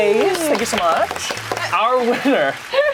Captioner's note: clapping